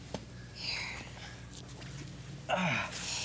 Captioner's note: Jen softly